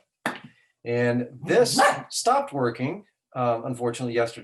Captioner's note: dog barking